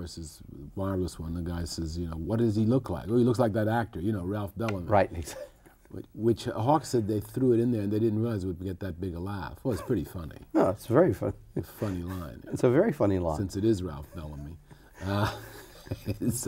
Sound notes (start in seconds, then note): 13.9 laughs